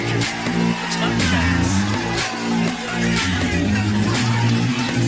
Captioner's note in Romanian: Aplauze